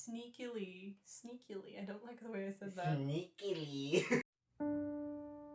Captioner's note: in a weird voice; laughter